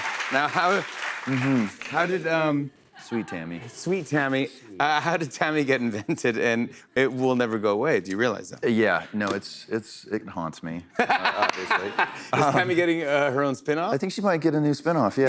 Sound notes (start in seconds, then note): 11.0 laughs